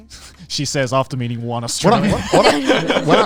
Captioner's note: laughs